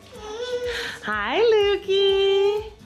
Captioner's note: babbles